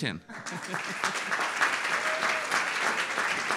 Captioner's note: audience applauds; laughs